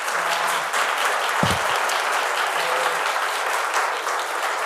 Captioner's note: audience applauds